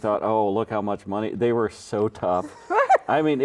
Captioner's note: laughing